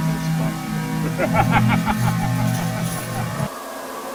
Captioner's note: laughter